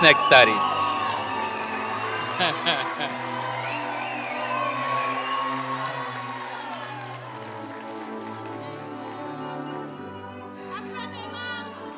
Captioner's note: applause and cheering